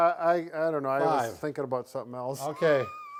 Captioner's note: laughing